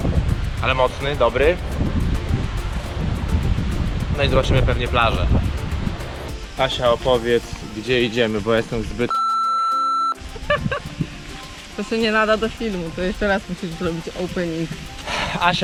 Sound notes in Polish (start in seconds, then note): 10.4 śmiech